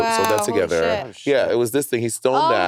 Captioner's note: mouse clicking